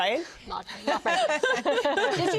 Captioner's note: all laugh